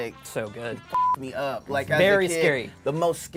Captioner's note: beep